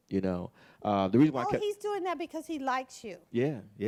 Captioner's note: bell